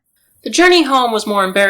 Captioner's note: ambient night noise